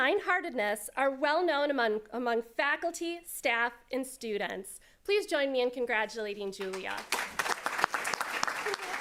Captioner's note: applause